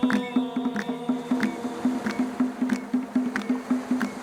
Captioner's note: rhythmic clapping